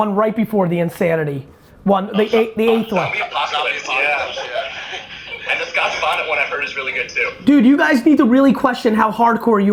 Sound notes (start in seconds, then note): 2.2 men exclaiming